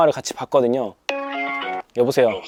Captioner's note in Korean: 통화연결음